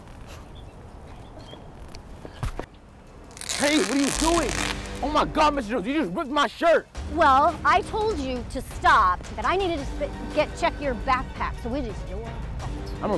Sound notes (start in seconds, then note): 3.3 fabric rips